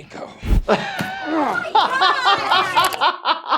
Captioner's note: laughing; grunting; laughing